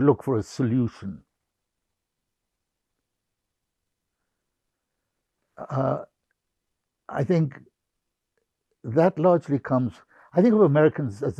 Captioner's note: pauses 6 seconds